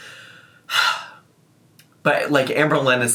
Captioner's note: exhales sharply